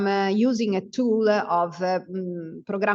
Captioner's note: speaks Italian